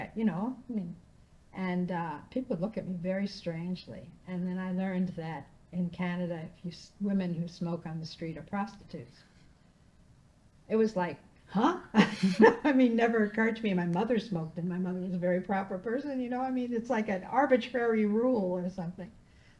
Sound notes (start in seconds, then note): 11.9 laughing